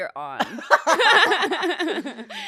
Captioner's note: laughs